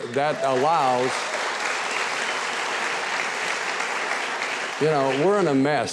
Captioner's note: audience applauds